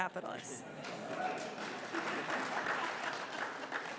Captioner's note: audience applauds